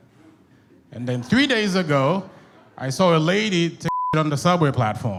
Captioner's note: beep